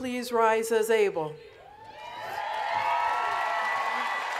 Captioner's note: cheering and Applause